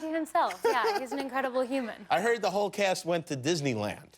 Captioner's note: laughter